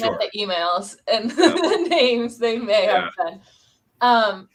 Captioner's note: laughter